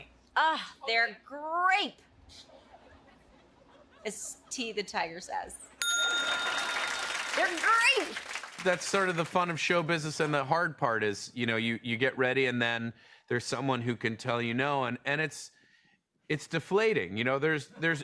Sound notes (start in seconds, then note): 5.8 ding!; 6.1 laughter and applause